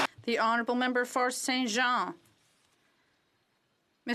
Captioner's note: some Applause